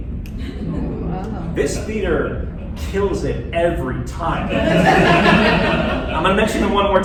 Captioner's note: laughter